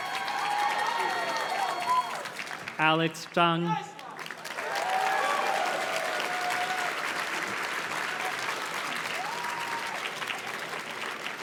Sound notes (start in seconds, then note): 3.9 audience cheers and claps